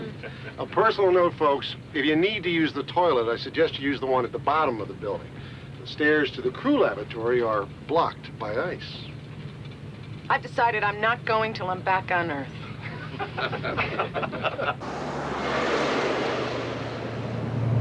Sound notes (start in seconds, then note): 12.8 laughing